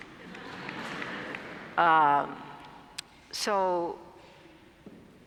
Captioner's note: laugh